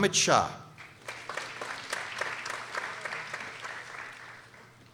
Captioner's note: people applauding